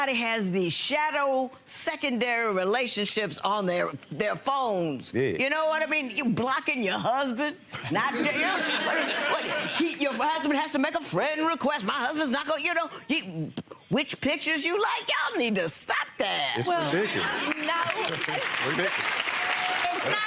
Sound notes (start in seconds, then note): 8.1 audience laughs; 17.4 audience claps